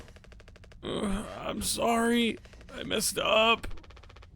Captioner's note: groans